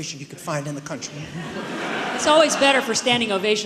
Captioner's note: audience laughs